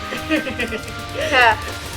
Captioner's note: awkward laugh